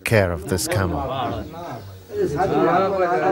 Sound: foreign spoken audio

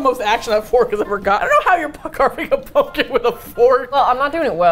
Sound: laughs

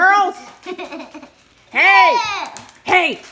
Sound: laughing

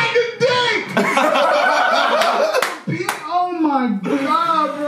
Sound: Sidemen laughing

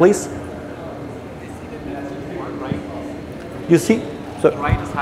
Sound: audience speaks softly

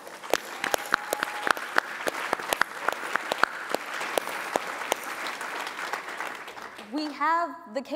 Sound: applause

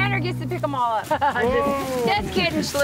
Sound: chuckles

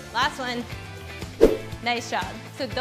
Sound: air swoosh

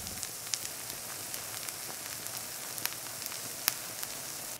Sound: oil frying

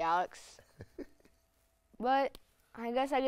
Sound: laughs

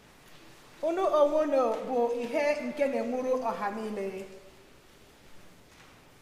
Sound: woman speaking in Igbo

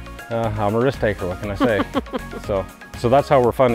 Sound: laughing

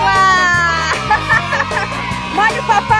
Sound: laughs

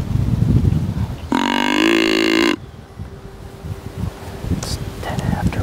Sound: deer calls

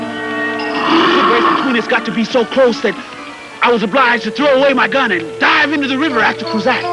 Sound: Cruzatte snarling

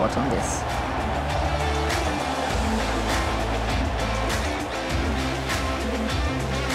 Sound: crowd roaring; upbeat rock music

